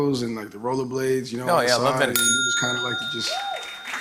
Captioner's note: bell dings